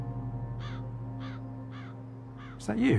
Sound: crow squawking

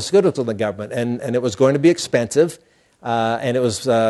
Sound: none

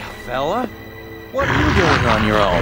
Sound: growling

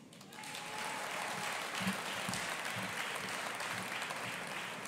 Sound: audience applauding

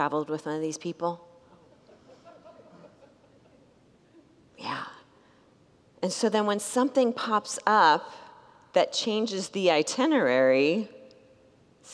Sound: congregants laugh

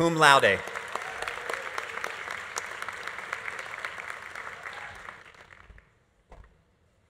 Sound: audience applauding; audience cheering

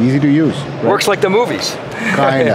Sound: laughs

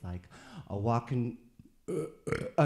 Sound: burps

